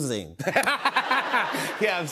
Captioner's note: laughter